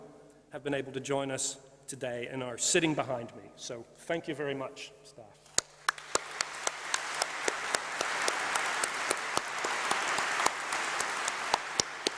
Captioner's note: applause